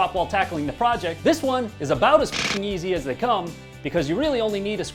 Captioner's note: beep